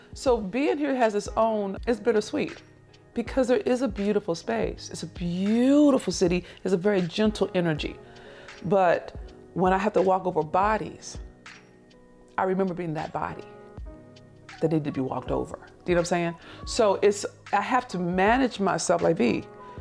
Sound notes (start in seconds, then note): none